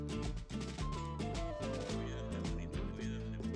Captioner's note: none